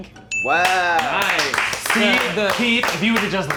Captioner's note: movers clapping